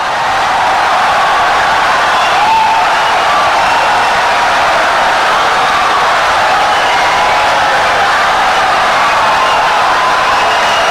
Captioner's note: wild applause and cheering for 17 seconds